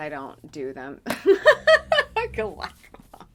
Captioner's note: laughing